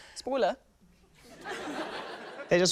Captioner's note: laughter